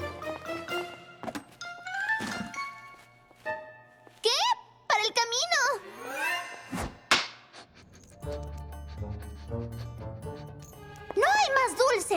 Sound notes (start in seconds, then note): 6.9 clack; 7.6 sniffing